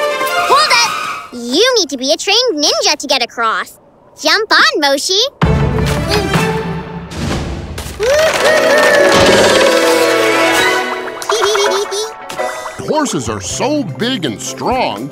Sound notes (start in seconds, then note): 11.3 giggling